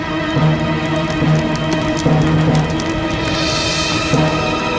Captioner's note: ominous Music; flames Crackling